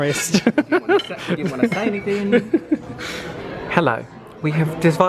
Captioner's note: laughs